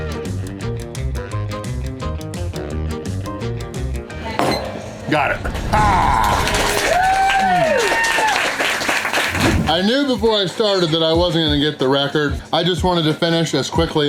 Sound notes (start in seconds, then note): 6.2 crowd cheering and applause